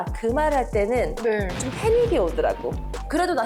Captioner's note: thunder